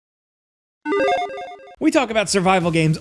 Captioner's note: logo chiming